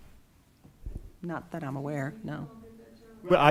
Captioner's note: speaking quietly